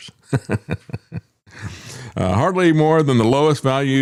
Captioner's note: laughs